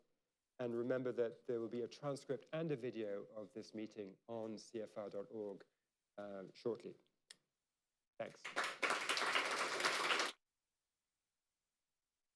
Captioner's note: applause